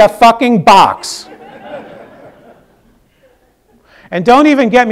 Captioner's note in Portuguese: risos